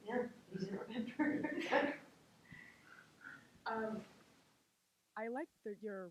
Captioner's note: laughs